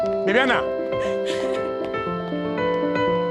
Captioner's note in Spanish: sollozos